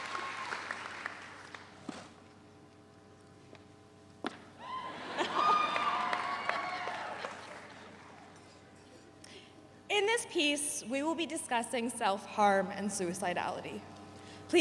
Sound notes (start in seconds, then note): 4.8 audience laughs